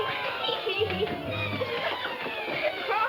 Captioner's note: dramatic music; laughs